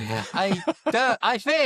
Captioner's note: laughs